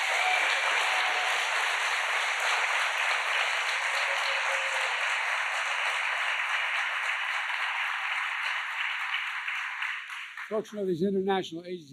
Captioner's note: applause